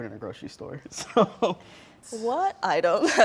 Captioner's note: laughing